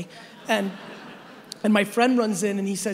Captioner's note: audience laughing